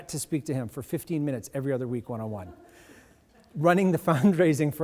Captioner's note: audience laughs